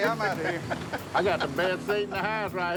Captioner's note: laughs